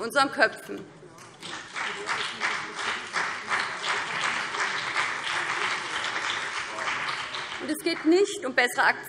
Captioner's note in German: Beifall BÜNDNIS 90/DIE GRÜNEN und vereinzelt CDU